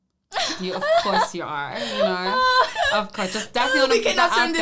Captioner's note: laughing